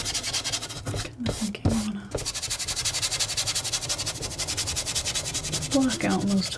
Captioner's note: scratching